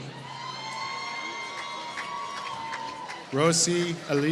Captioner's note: applause